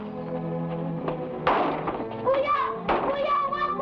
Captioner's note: foot bangs; people shouting in Tagalog